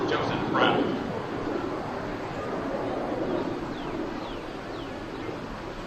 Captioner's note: plane engine overhead